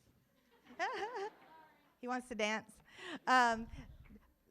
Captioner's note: laughs